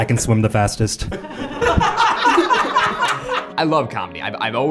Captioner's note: everyone laughs